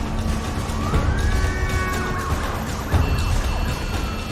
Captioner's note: siren wailing, horns honking